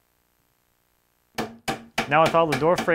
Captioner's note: mallet taps